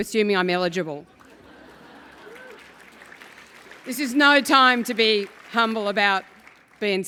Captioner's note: laugh